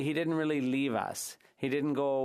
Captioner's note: speaking French